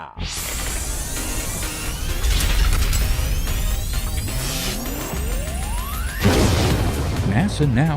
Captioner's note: sound Effects